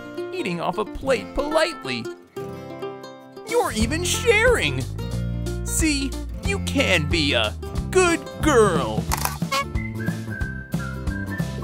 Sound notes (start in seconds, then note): none